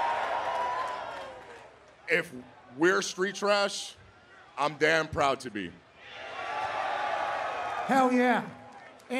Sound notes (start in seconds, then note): 1.9 cheering; 8.8 cheering